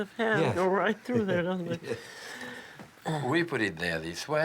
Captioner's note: laughs